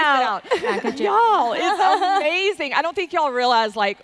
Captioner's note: speaking faintly